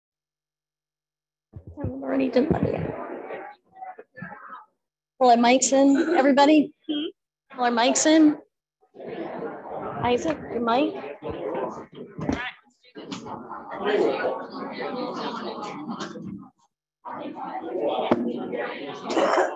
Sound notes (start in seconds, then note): 1.7 committee members mumbling